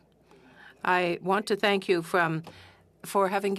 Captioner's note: speaking French